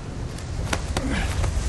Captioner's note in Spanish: Jack gruñe